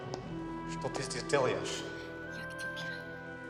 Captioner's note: Berbicara dalam bahasa Rusia